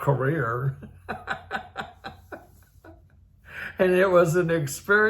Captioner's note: laughs